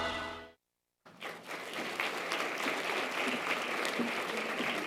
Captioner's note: audience applause